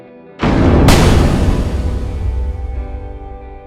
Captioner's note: loud bang